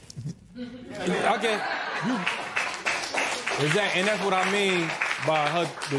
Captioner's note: laughter